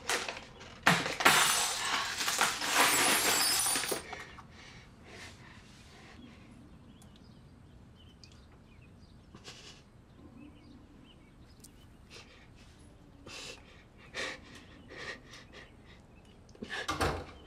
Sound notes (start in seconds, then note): 0.8 glass breaking; 14.0 panting; 16.9 door closes